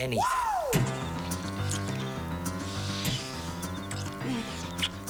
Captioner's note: lips smooching